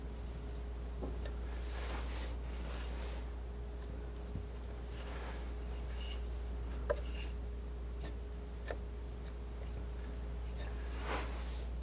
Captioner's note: scratching